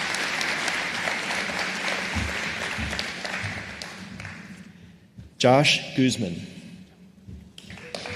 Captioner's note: applause; applause